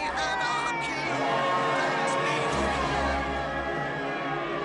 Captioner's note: cheering